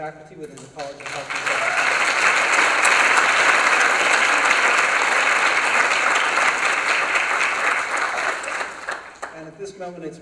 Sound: applause

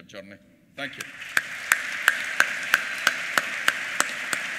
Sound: applause

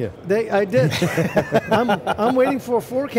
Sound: laughing

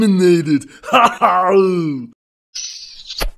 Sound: laughing

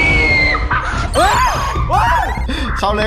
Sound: screaming continues; radio

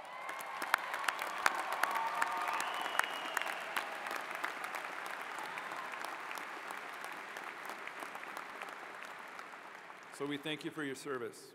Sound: cheers and applause

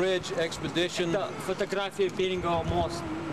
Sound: russian speech

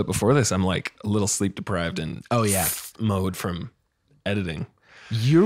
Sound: sucks teeth

